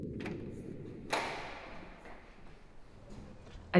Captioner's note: sound of door opening, echoey footsteps